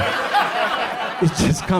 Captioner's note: audience laughs